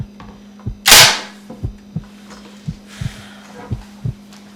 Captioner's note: gun cocks